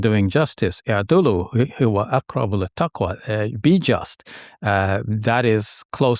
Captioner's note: speaking in foreign language